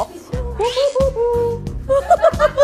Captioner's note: whoo, hoo, hoo